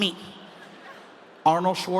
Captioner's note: audience laughs